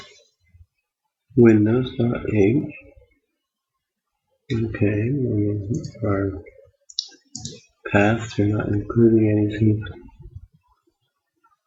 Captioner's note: mumbling / "thinking out loud" to self